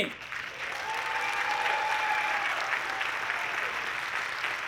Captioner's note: audience clapping